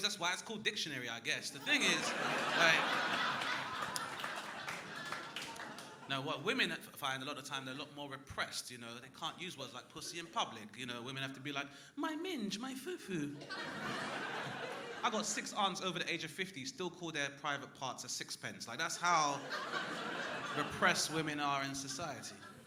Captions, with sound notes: So many names, that's why it's called dictionary I guess. The thing is (crowd laughing) Now what women find a lot of time they're a lot more repressed, you know. They can't use words like pussy in public, you know. Women have to be like, "My minge, my foo foo." (crowd laughing) I got 6 aunts over the age of 50 still call their private parts a sixpence. Like that's how repressed women are in society.